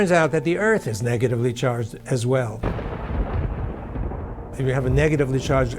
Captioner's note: thunder rumbling